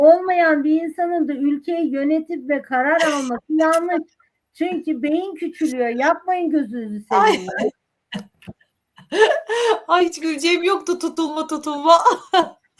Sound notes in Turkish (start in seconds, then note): 9.0 kahkaha